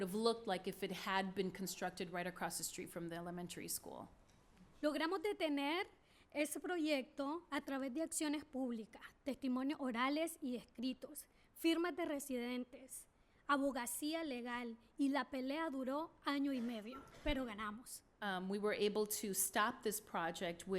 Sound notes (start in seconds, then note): 5.1 speaking spanish